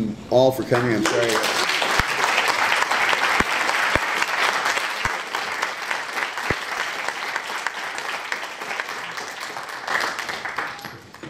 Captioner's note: applause